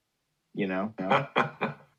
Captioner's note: laughter